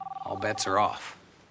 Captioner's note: phone ringing